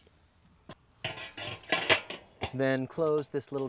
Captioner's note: trapdoor clanking